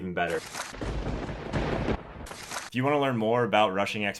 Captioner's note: thunder cracks